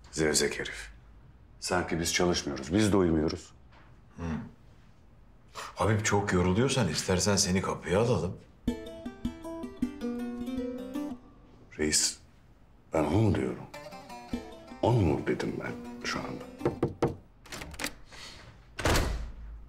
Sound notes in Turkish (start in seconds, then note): 16.5 Kapı Çalıyor; 17.4 Kapı Açıldı